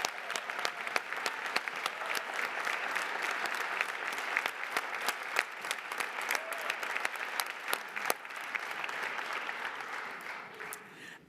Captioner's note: applause